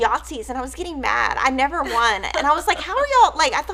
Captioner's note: chuckles